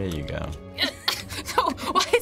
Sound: both laugh

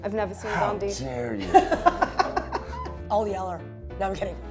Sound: laughs

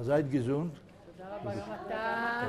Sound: yiddish

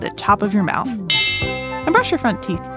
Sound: switch bell

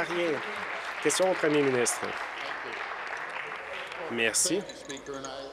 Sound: applause

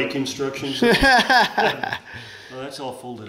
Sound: laughing

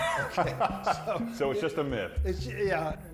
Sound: laughs

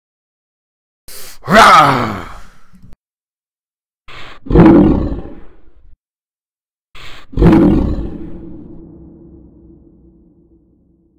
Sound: beast roar

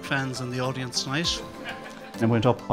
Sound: audience laughs

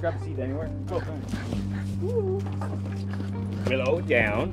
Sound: dog panting

